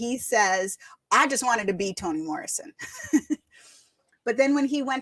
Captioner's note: laughs